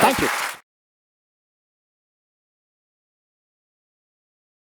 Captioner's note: audience clapping